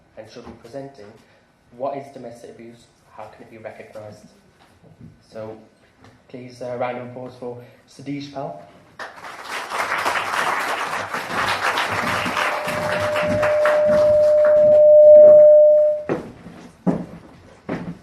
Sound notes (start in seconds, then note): 8.9 applause